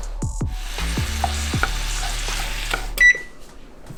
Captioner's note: pan sizzling